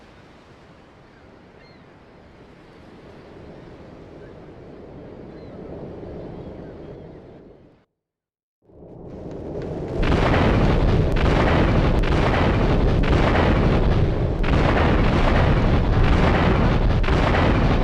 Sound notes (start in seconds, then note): 5.3 gun firing